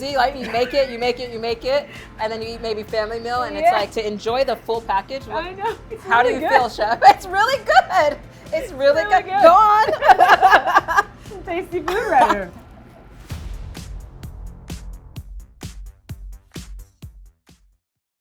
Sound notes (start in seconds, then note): 9.6 both laughing; 13.3 upbeat music